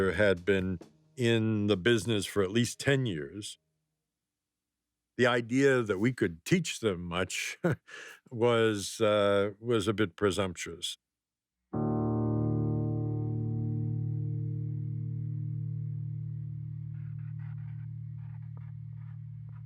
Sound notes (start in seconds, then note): 7.4 laughs; 11.8 somber music